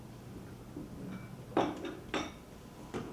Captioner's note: teacup and saucer clatter